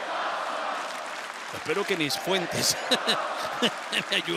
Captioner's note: applause; laugh